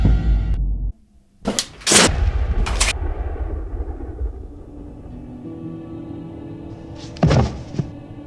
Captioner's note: steadily intensifying horror music; thunderous shotgun blast